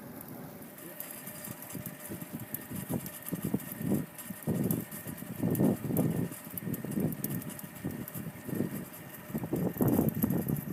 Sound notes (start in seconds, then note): 0.8 fishing line rattles; 5.8 wind gusting